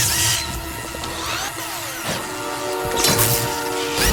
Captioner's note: dramatic music; robot whirring; robot whirs frantically; battery clanks; electricity buzzes